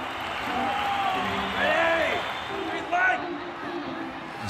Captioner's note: crowd cheering